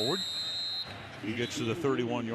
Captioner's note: whistle blowing